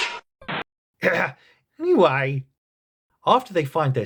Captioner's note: ahem